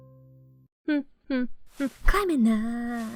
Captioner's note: humming